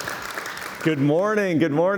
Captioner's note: cheers and Applause